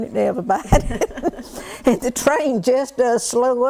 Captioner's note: laughter